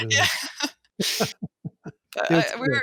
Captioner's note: chuckles